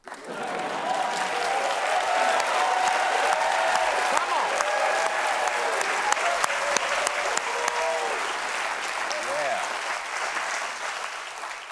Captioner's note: cheers and applause